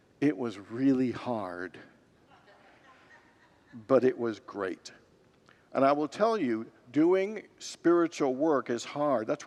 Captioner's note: congregants laugh